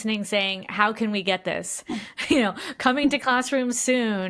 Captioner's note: laughs